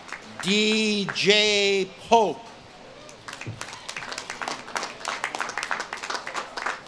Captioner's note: audience claps and cheers